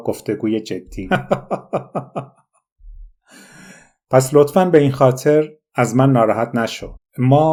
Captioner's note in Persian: خنده